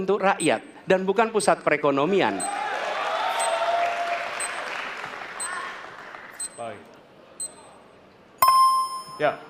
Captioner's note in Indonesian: Tepuk tangan